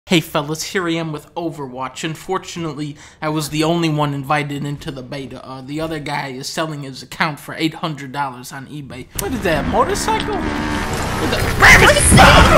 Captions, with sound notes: Hey fellas here I am with Overwatch. Unfortunately, I was the only one invited into the beta. Uh, the other guy is selling his account for 800 dollars on Ebay What is that a motorcycle? [Revving of an engine] Who the- RAM! AUGH!